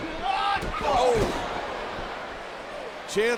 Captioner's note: Jericho yells